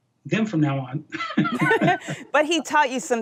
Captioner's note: laughing